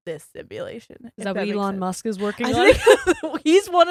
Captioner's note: giggles